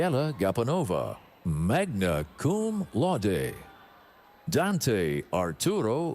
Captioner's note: none